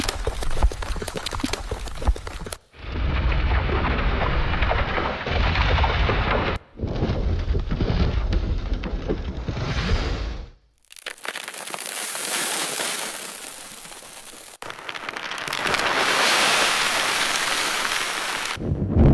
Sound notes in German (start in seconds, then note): 0.0 Erdbebengeräusch; 7.8 Erdrumpeln; 12.1 Lawinengeräusch